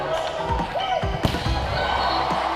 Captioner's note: girls cheering